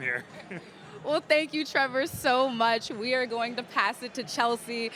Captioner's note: laughter